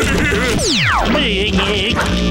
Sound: machine glitching; laughing

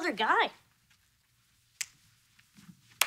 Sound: snaps fingers

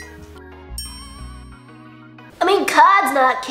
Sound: bell dings

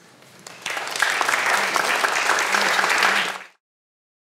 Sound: audience applauds

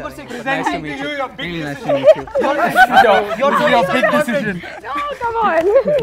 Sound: laughter

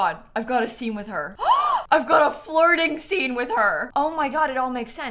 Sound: gasps

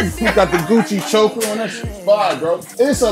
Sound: laughs

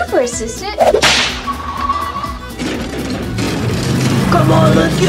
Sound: vehicle whirs

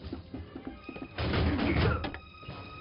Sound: heavy clanking

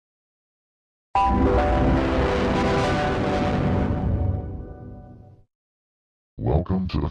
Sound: Devil Windows XP Startup Sound

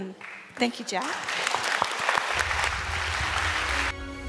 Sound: applause

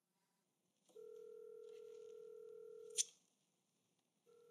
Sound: phone ringing

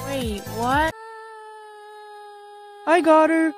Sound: screaming

